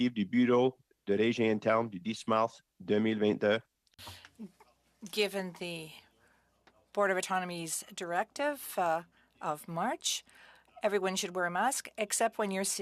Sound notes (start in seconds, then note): 4.5 speaking French